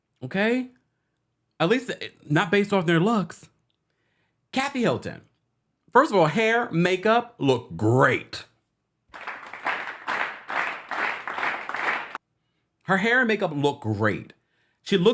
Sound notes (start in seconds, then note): 9.1 applause